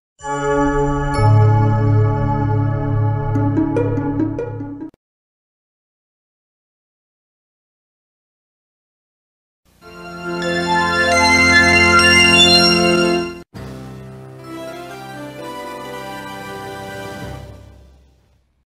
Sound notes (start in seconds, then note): 6.1 silence; 9.8 80s synthesizer music playing; 13.5 digital synth music plays